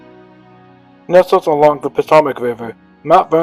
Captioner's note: voiceover